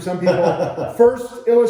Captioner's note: laughing